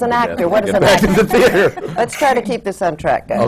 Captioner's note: laughter